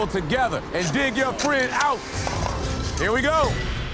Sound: metal clicking; urgent music

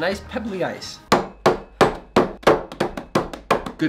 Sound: loud banging

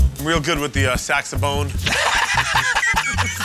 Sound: laughter

